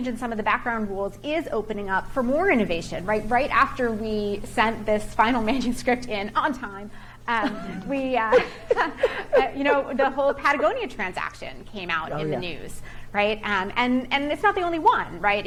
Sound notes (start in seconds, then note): 7.4 chuckles